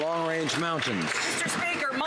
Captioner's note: some Applause